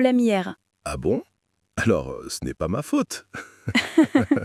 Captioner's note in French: rire